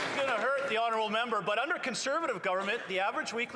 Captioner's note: some Applause